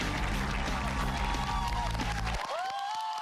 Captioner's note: cheers and applause